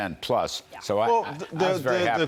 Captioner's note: laughter